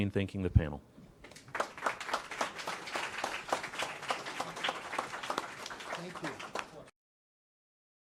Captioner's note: applause